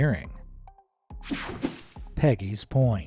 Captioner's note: screen whooshing